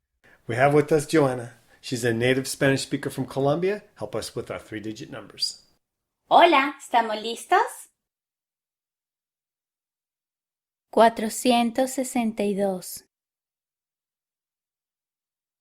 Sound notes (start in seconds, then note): 5.8 in Spanish